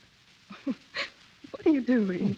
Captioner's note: chuckles